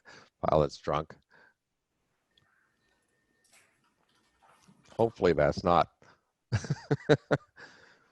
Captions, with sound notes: Pilot's drunk. Hopefully that's not (laughs).